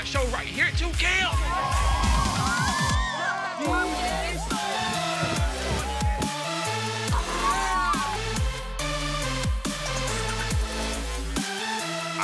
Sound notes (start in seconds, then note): 1.2 kids cheering; 4.1 crowd; 6.6 electronic music